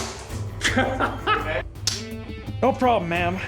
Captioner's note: laughter